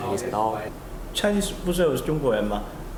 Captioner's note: participant speaking in foreign language